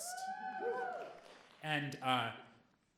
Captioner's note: audience cheering